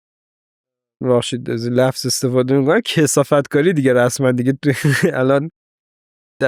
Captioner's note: laughs